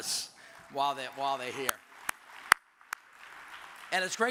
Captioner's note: audience applauds